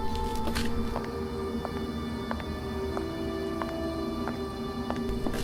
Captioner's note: footsteps; suspenseful music